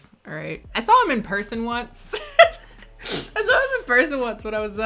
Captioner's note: laughs